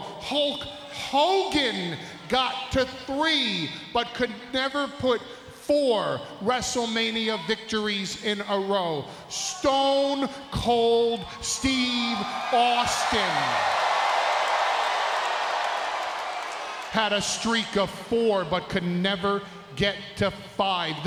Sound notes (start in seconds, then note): 13.3 crowd cheering